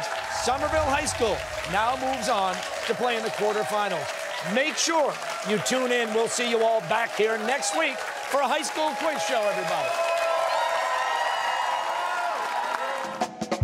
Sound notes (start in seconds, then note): 9.7 cheers and applause